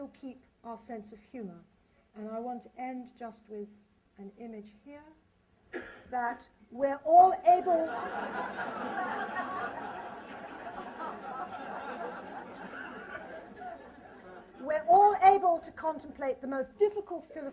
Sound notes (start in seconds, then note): 7.6 laughter